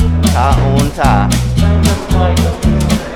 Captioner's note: people talking ambience; speaking Bisaya; people talking ambience